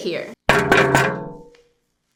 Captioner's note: taps on screen